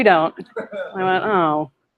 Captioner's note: laughter